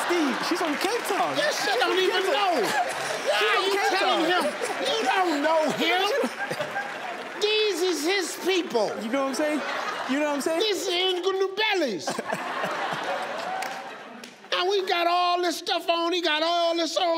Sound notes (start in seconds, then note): 11.8 audience laughing